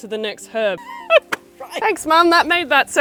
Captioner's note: laughing